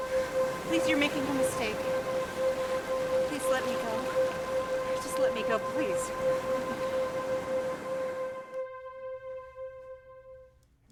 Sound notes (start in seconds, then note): 6.6 whispering